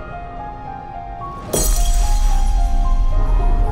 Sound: dramatic music; bottle breaking

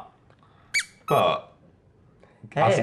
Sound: fast squeak

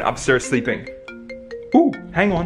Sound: phone ringing

